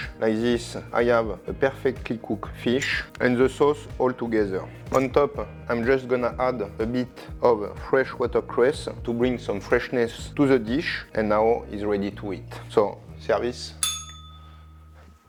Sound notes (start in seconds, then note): 13.8 bell rings